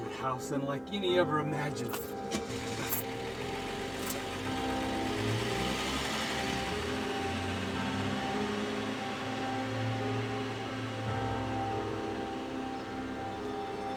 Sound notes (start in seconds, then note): 2.0 car starting; 8.9 soft dramatic music